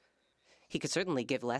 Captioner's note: speaking French